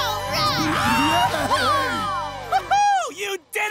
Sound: cheering

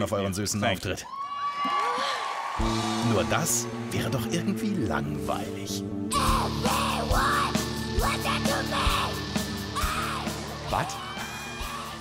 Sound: German Voiceover Translation

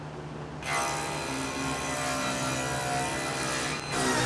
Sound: saw buzzing

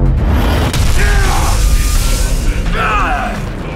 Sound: Jin growls and yells; pants and groans

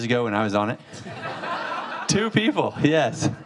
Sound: audience laughing

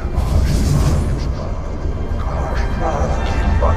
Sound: the black speech intensifies

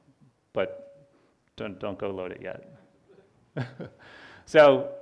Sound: laughs

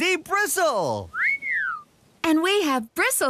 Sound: whistles

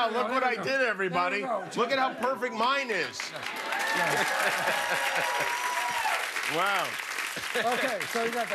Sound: cheers and applause

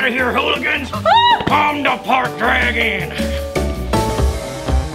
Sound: loud screaming; upbeat music

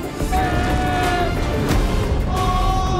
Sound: Shrek yells; panda thuds

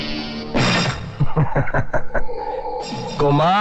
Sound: laughing

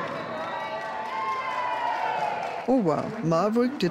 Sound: crowds cheers and claps

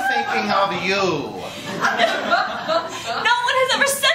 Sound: laughter

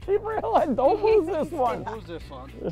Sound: laughs

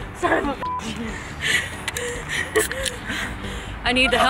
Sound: laughing and panting

